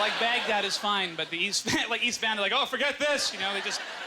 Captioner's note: audience laughter